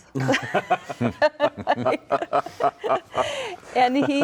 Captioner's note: chuckling